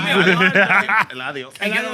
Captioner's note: laughter